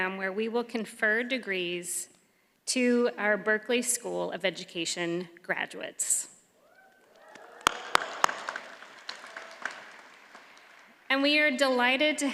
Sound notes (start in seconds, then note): 7.0 audience applauds